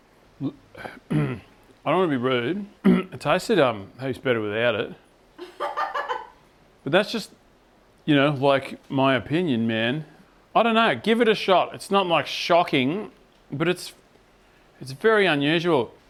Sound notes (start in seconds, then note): 0.7 clears throat; 5.4 laughing